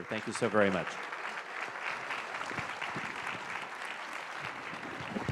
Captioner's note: audience applauds